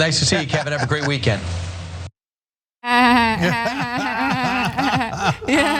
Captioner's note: laugh